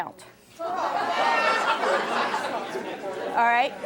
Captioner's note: audience jeering